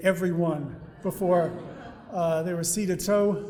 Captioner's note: audience laughing